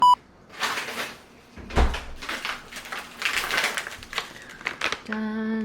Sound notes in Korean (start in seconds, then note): 0.5 부시럭부시럭